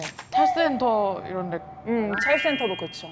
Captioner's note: sound effect of expecting a good reaction